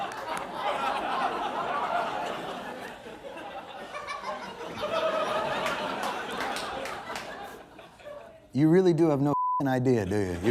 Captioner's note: laughing